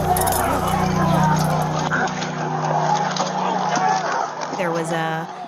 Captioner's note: shouting, struggling continue